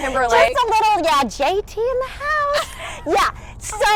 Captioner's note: laughs softly